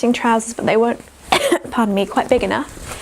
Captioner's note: coughs